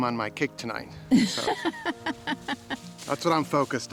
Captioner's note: laughs